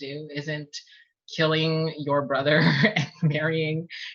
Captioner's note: laughs